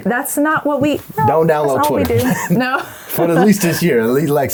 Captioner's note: laughs